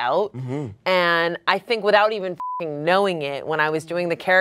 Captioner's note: beep